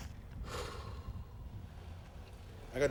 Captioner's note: sighing